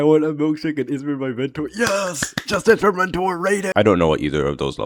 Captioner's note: clapping